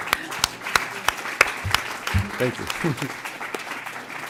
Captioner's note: laughter; applause